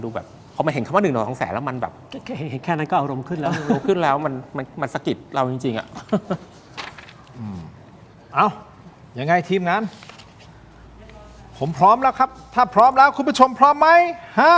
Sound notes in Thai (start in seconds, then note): 5.8 เสียงหัวเราะ